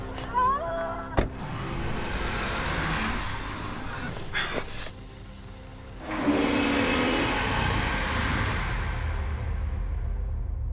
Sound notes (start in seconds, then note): 0.2 Belle shouting; 1.6 spider hissing; 5.9 spider growling